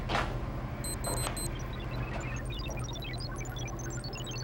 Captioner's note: computer beeps